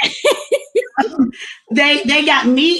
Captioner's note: laughs